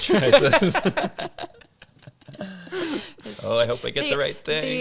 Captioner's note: all laughing